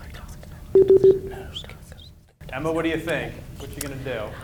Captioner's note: beep